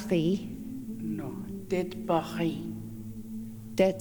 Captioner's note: In Mi’kmaq